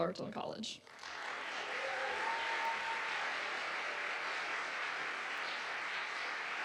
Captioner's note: audience cheers and applauds